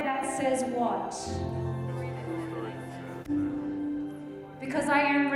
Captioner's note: group murmuring